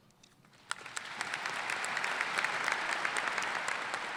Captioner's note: applause